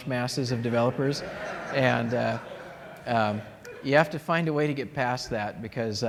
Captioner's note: laughter